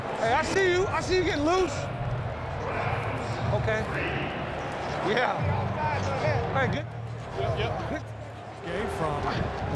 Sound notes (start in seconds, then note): 2.0 speakers blaring